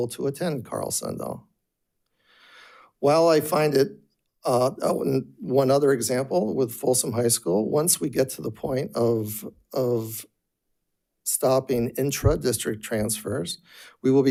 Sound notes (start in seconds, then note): none